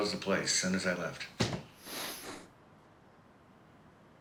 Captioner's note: breathing